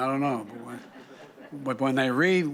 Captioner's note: laughter